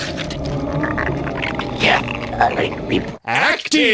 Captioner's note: sound of getting speared; gargling his words